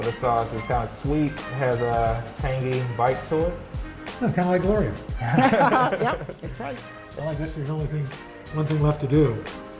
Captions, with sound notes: This sauce is kind of sweet. Has a tangy bite to it. - Kind of like Gloria. (laughter) - Yep! That's right. - One thing left to do.